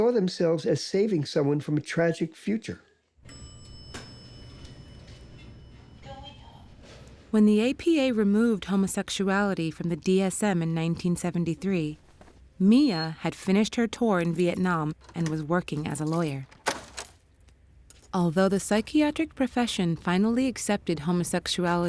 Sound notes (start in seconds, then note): 3.2 elevator chimes